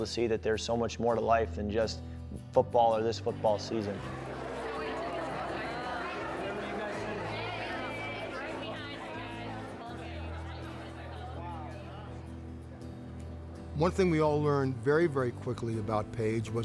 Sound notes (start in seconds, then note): 4.3 background talking